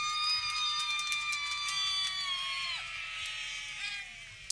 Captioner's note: people cheering